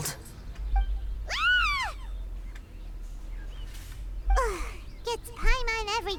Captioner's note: screams